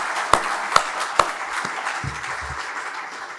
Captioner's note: clapping